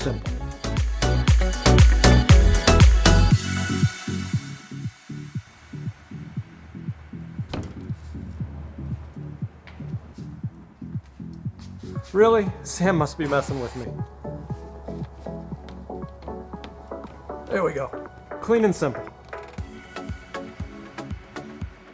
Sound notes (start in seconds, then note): 0.0 upbeat music; 13.2 liquid hisses; 14.1 upbeat music; 19.3 upbeat music